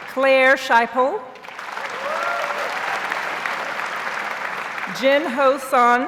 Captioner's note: audience applauds